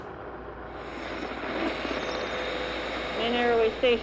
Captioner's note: static